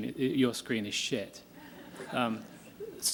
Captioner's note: laughter